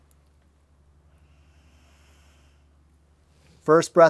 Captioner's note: breathes